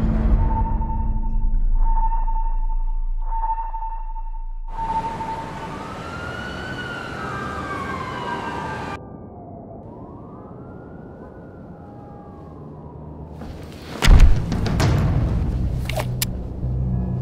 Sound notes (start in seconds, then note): 5.9 siren blaring; 14.0 dramatic music